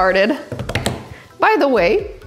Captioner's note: hands tapping